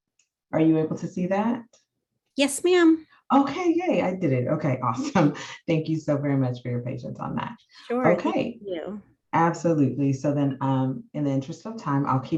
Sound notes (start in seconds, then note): 5.0 laughs